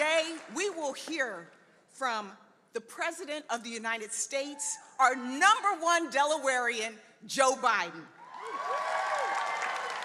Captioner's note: applause